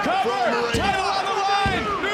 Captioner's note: overlapping chatter